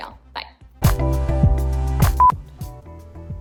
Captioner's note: beep